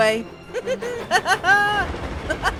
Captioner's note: he chuckles